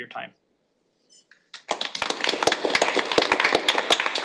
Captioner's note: applause